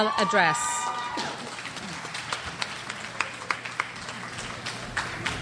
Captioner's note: crowd applauds and cheers